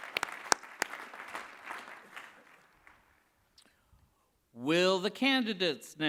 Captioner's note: applause